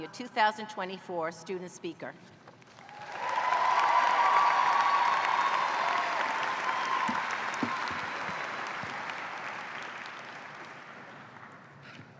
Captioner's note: cheers and applause